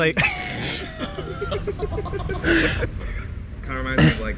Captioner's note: laughing